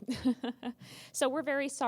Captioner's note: laughter